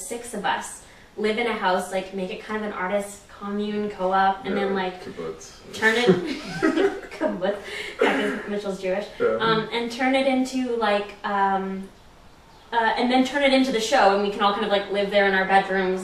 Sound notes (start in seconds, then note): 5.6 laughs